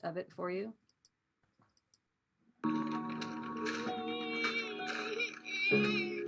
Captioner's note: TikTok video plays